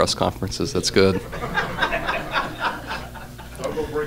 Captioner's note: laughter